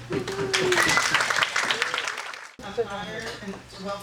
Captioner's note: audience applauding